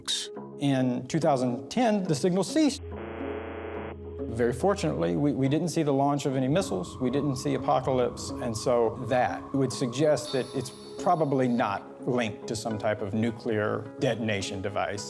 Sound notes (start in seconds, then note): 2.9 faint buzzer